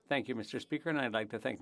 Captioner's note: speaking French